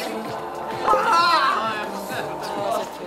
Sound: #It's_so_hot / Screams fill the rehearsal

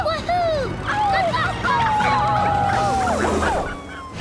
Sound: howling

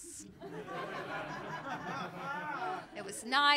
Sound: laughter

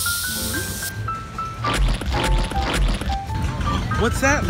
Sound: three squirt sounds

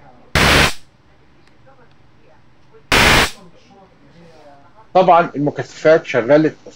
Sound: Screech

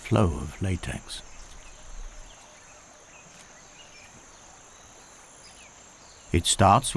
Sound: birds chirping

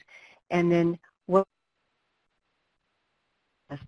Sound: no audio

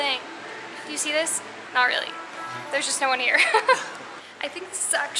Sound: laughs

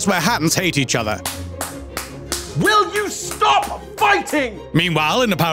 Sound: clapping

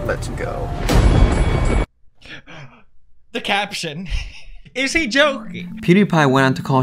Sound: fake gasps; laughs

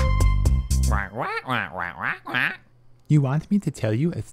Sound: squawk

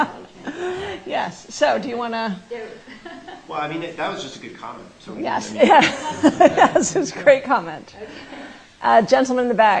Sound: laughter

